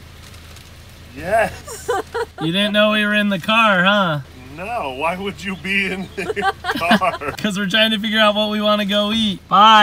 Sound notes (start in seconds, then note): 1.3 laughs; 4.7 laughs